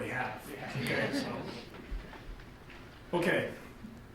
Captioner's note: group chuckles